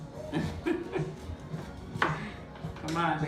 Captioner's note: laughs